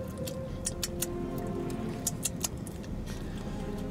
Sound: tongue clicks

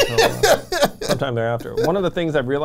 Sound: laughs

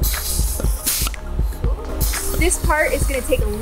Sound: air decompressing

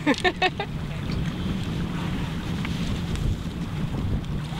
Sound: laughing; wind wooshing

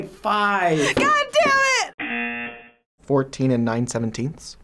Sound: buzzer rings

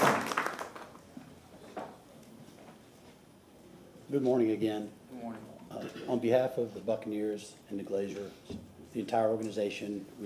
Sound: applause

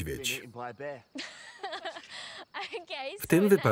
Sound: laughter

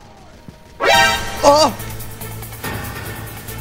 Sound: suspenseful honking; gasping; dramatic music

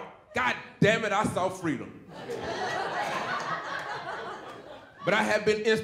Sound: audience laughing

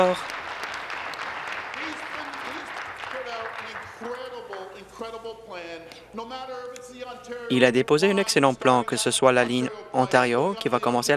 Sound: applause

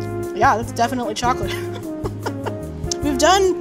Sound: soft music; laughing

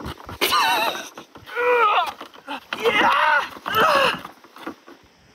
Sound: struggle moans

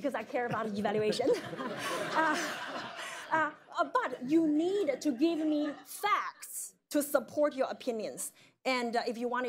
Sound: laughter

